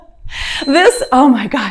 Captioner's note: timer beeps